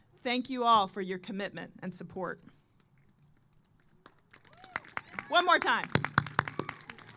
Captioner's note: applause